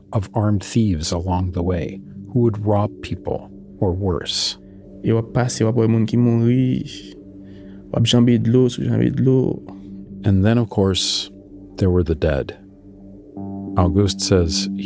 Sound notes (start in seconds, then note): 5.1 speaking Creole